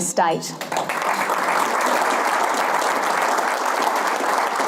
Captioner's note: audience applause